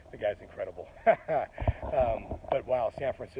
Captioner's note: laughs